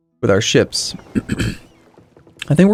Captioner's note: clears throat